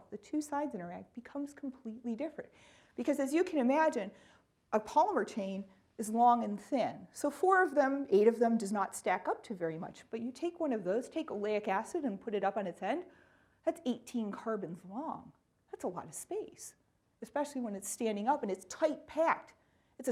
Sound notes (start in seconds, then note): none